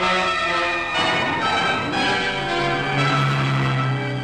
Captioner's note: tires squealing; engine rumbling